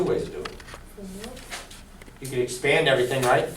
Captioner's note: voiceover